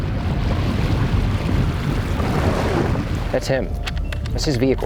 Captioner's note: water splashing